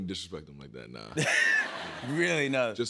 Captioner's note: laughter